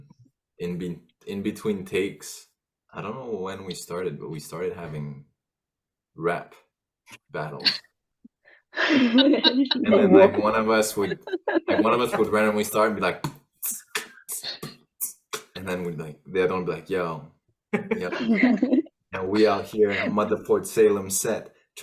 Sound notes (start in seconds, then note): 8.8 laughter; 13.6 starts beat boxing; 16.7 starts to rap